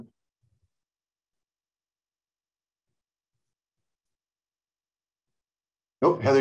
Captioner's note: silence